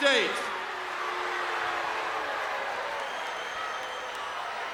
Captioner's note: crowd boos